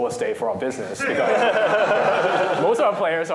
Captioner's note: laughter